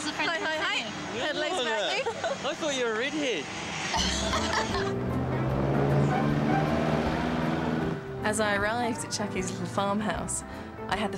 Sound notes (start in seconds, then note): 4.0 laughs; 5.6 car engine